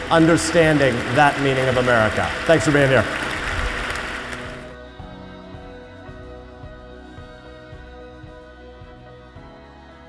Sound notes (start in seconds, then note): 4.7 audience applaud; 6.5 soft instrumental music